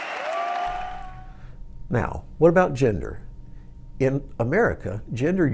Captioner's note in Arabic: تصفيق